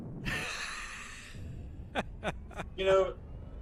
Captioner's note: laughter